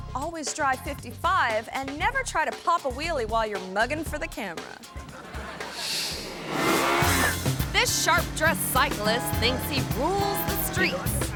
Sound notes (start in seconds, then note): 4.9 audience laughing; 5.7 air whooshes; 6.1 motorcycle revving